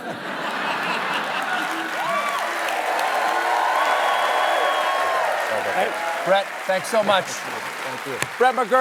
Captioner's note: applause